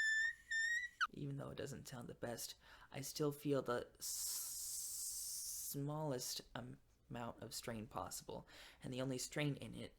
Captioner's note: hissing